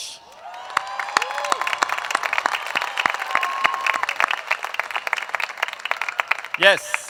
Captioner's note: applause